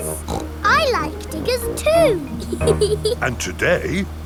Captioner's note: snorts; laughs